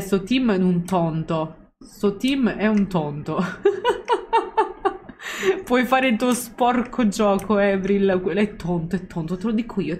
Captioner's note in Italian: Risate